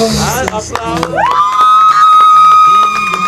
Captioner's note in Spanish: claps